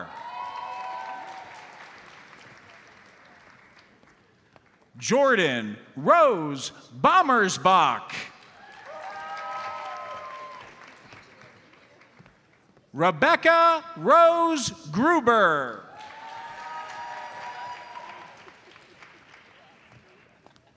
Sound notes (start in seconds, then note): 0.0 audience cheers and applauds; 8.4 audience cheers and applauds; 15.9 audience applauds